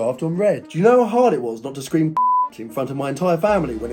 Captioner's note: beep